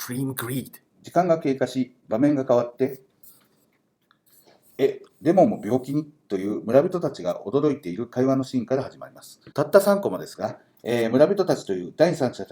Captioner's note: speaking Japanese